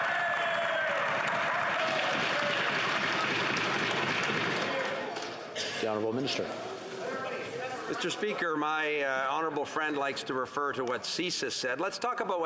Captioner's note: yelling